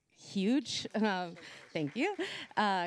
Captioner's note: applause